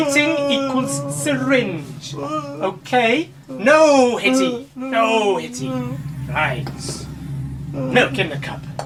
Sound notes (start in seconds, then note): 5.6 monster grunting